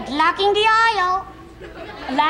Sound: audience snickers

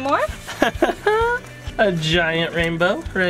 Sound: chuckles

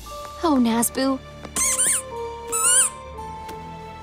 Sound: squeaking

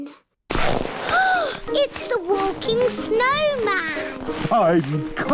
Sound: gasps

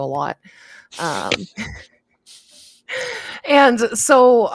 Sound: all chuckling

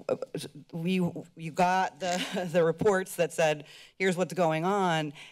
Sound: laughs

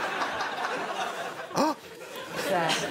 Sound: gasps

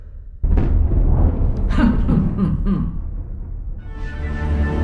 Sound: thunder rumbles; Mrs. Tweedy cackles

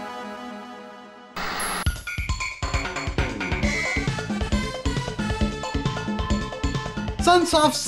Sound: game audio

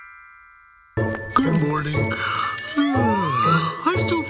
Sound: yawns

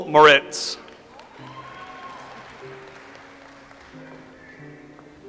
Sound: audience applauds

